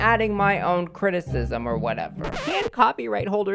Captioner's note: record Scratch